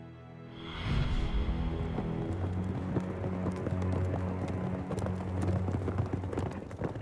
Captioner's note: unsettling music; horse hooves pounding